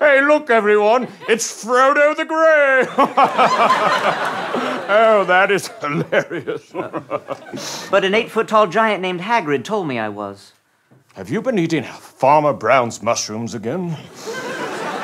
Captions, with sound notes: Hey, look everyone, it's Frodo the Grey! [laughs] Oh, that is hilarious. But an eight-foot tall giant named Hagrid told me I was. Have you been eating Farmer Brown's mushrooms again?